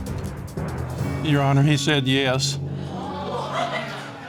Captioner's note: audience gasping